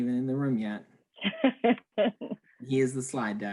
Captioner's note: laughing